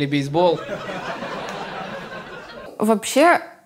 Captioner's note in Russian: зал смеется